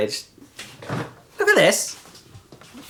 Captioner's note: fridge door clunks